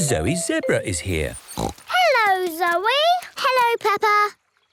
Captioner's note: snorts